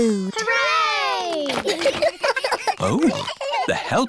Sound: giggles

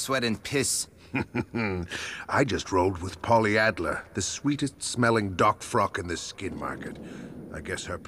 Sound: chuckle

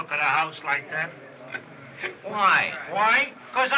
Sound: chuckles

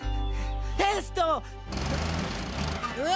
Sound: engine Revving

